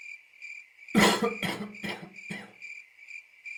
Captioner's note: ambient cricket sounds; coughing; more crickets